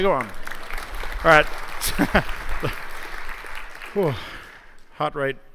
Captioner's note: applause